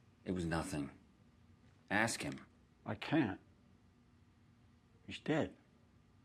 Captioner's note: none